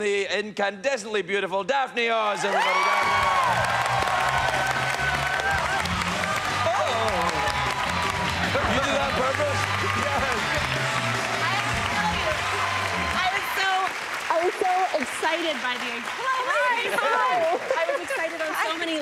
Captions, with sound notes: incandescently beautiful Daphne Oz, everybody. Daphne Oz. [lively music] Uh-oh. [laughs] You do that on purpose? I have to tell you, I was so--I was so excited by the id--hello, ladies. Hi, hi. I was excited on so many